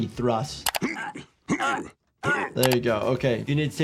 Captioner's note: Jerome grunts